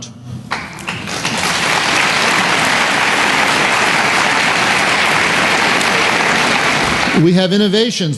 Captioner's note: applause